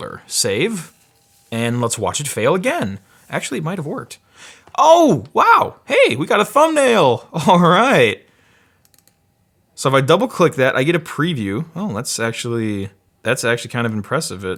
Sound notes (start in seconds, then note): none